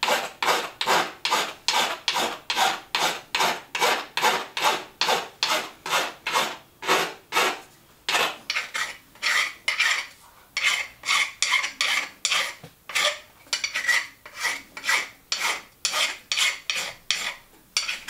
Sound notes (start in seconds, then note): 9.1 bright scratching noise